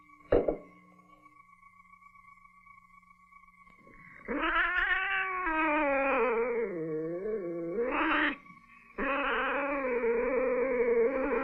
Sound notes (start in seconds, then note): 4.2 growls